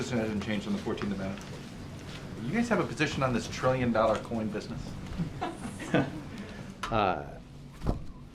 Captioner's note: laughter